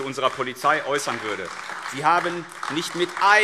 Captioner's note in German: Beifall AfD